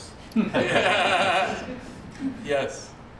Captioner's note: laughter